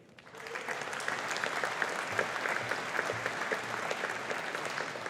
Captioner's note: audience applauding